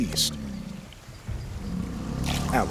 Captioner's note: growling